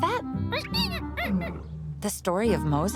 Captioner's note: squeaking